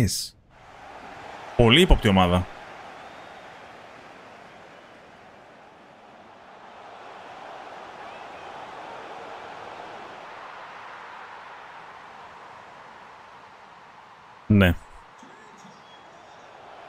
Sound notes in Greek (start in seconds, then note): 6.5 χειροκρότημα